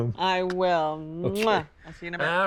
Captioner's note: smooches